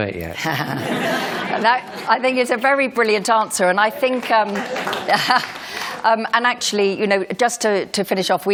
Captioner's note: applause